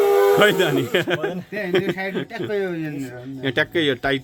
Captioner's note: laughter